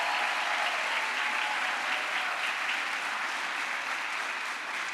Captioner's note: crowd applause